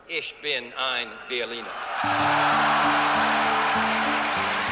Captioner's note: cheers and applause